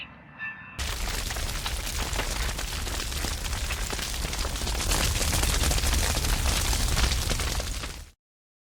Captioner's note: fire sounds